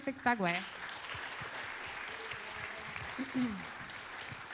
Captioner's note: applause